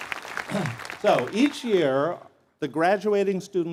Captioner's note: applause